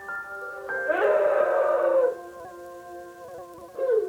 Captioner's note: more sobbing